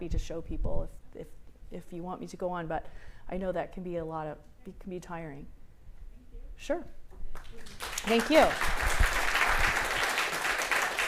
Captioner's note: applause